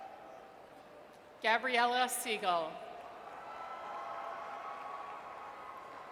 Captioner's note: audience cheers; audience cheers